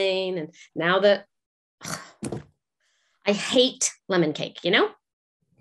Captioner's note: scoffs